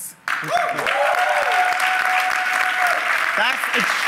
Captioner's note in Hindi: सराहना